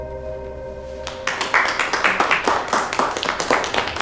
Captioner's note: clapping